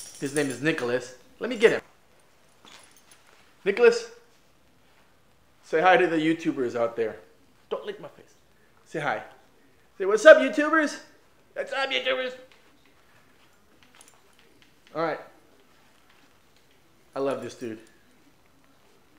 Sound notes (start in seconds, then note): 6.3 whispers